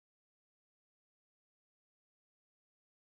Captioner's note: none